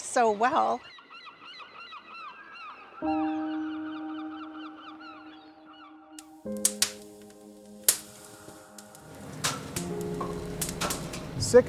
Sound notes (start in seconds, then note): 2.9 birds calling; 6.0 tender instrumental music; 9.2 fire crackling